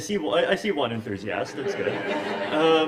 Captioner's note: laughter